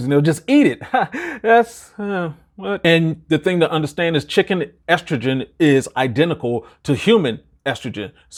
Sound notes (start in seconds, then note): 0.8 chuckling